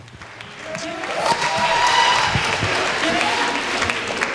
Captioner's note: applause